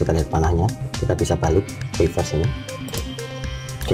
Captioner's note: click